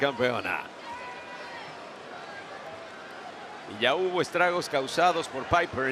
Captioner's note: applause